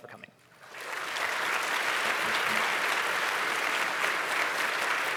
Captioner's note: applause